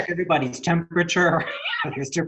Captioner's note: chuckling